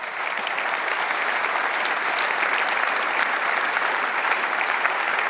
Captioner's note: applause